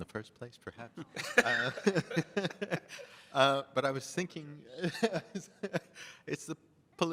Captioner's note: laughs